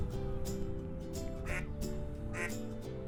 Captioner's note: duck quacking